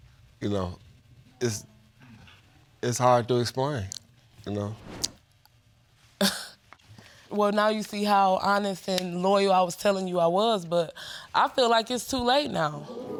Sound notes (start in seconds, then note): 5.9 scoffs